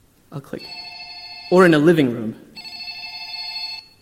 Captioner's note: phone ringing